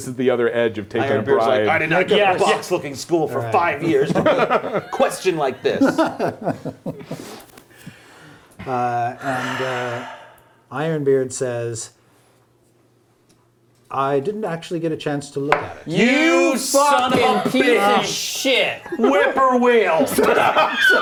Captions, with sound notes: I did not go to box-looking school for five years for a question like this! - And Ironbeard says I didn't actually get at chance to look at it. (angry yelling) - You son of a bitch! - Fucking piece of shit! - whip-poor-will!